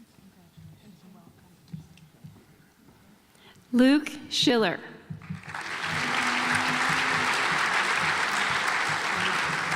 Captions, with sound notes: Luke Schiller (audience applauds)